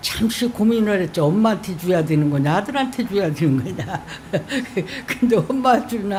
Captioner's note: laughter